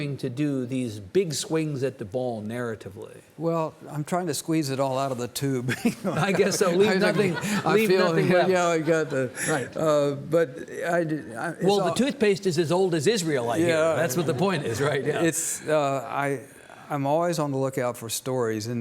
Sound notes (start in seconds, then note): 5.7 chuckles; 5.8 audience laughing